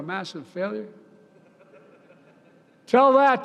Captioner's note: laughter